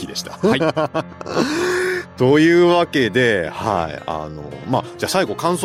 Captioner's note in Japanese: 息をのむ音